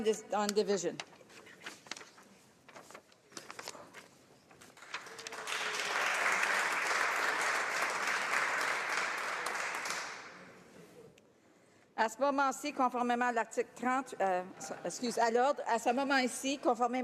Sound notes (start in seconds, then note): 9.1 applause; 16.1 speaking in french